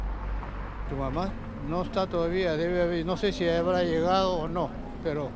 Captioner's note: speaking in foreign language